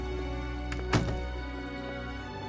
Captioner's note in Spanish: Ruido al cerrar la puerta